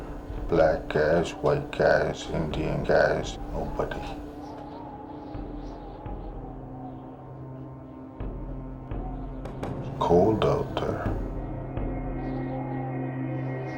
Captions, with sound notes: BLACK GUYS, WHITE GUYS, INDIAN GUYS, NOBODY. (Wind blowing) IT'S COLD OUT THERE.